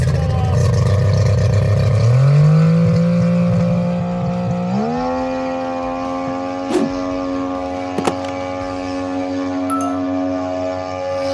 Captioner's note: engine sounds